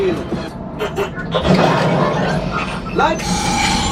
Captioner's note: machine beeping